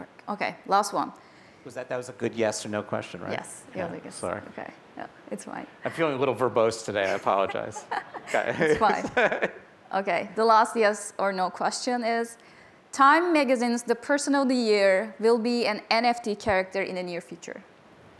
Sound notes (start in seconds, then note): 7.0 laughter